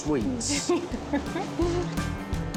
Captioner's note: giggling